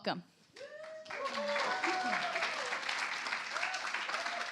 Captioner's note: cheers, applause